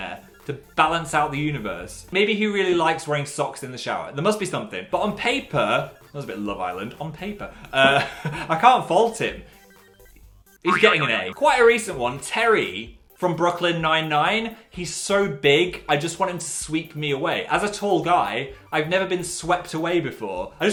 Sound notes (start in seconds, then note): 10.6 boing